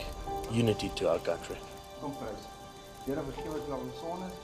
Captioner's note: man speaking Afrikaans